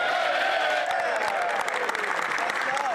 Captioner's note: some Applause